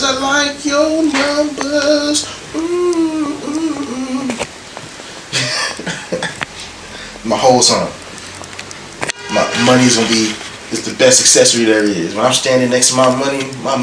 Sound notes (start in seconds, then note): 5.3 laughs